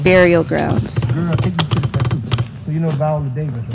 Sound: speaking faintly

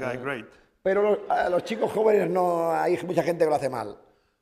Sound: speaking spanish

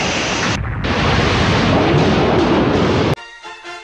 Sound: explosion

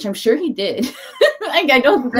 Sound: laughs

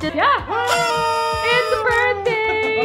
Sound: party blower whistling; laughs

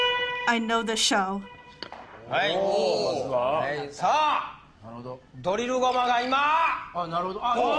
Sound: speaking Japanese

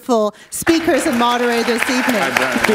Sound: applause

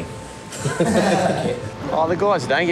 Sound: men Laughing

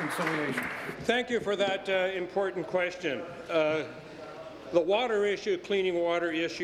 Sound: applause

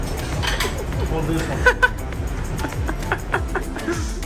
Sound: laughs

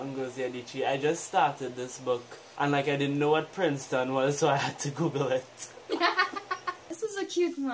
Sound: laugh

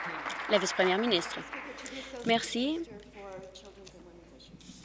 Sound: applause

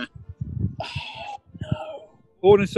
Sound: gasps

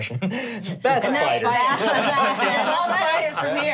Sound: laughing

